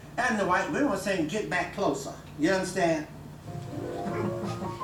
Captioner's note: lively piano music; laughs